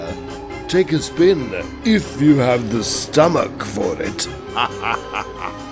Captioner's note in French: rire diabolique